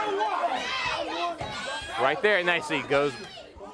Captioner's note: crowd chatter